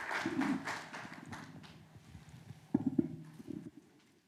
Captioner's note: applause